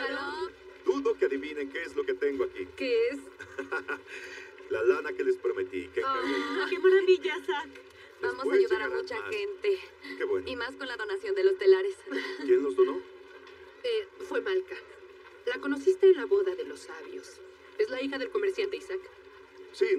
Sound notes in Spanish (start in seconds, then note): 3.4 Ríe